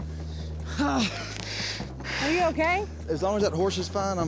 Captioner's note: grunts